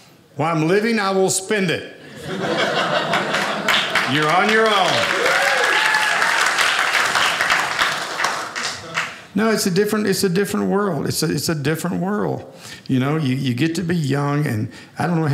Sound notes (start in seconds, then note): 2.0 audience laughing; 4.9 audience applauding